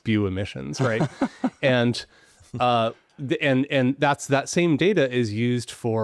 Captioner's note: laughs